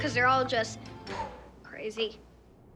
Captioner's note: exhales